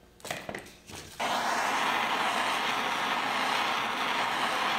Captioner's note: blowtorch hisses